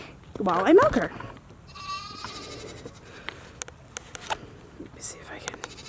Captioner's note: goat bleating in background